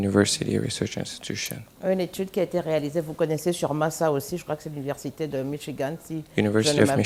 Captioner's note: speaking french